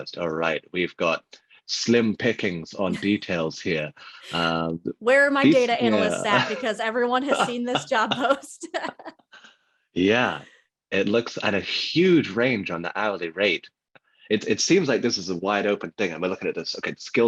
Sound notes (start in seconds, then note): 5.4 laughs